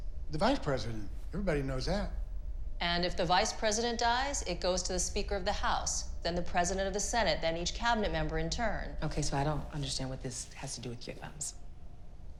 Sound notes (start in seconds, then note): none